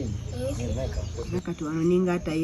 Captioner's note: birds chirping